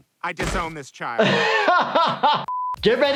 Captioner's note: laughs